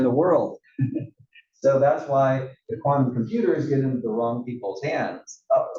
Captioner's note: laugh